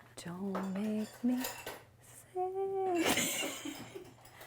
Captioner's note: chuckles; laughs; items clattering; laughs